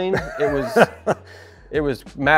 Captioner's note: laughing